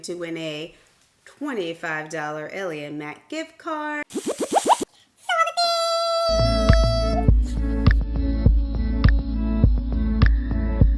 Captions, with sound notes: to win a $25 Ellie and Mac gift card. (eyeball whooshing) So, thanks. (bright upbeat music)